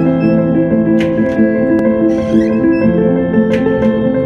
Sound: door slams; door slams

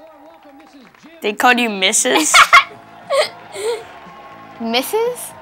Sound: laughing

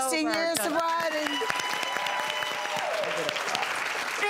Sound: audience cheering and applauding

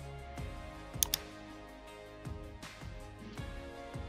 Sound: mouse clicking

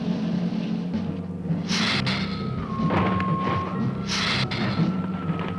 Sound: Gila monster hissing

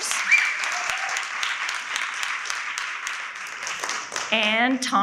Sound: audience applauding

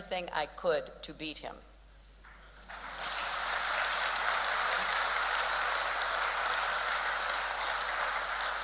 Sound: applause

